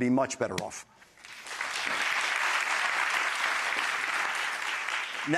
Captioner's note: audience applauds